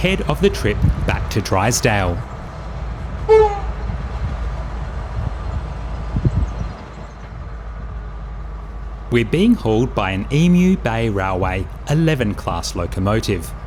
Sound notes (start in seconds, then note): 3.2 train horn